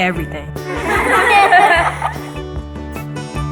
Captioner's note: all laughing; bright music